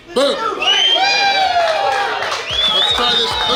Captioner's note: cheering & Clapping